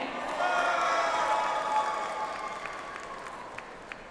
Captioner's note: audience applauds